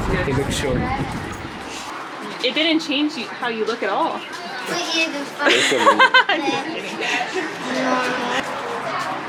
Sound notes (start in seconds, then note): 5.4 haha